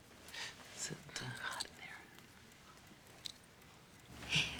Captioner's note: quietly